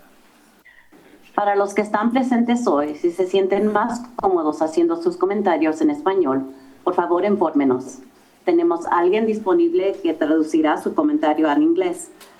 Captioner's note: foreign Language